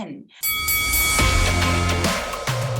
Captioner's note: bell dinging; upbeat music